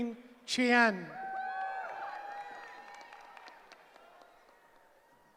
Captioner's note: cheering